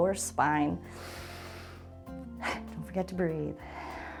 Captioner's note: inhales; exhales